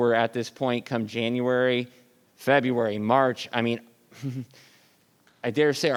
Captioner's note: laughs